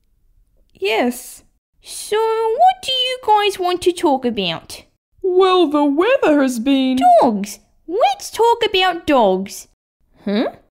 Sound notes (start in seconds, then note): none